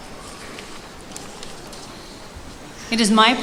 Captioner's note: applause